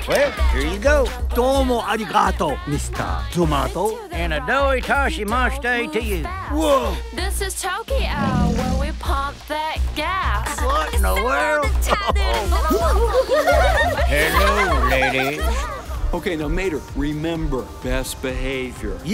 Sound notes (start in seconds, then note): 5.0 fake foreign language; 8.1 engine rumbles; 11.8 giggling; 11.8 laughs